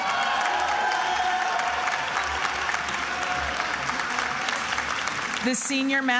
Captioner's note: attendees applauding and cheering